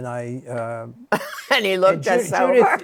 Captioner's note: chuckles